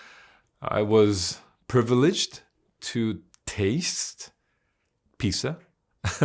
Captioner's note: laughs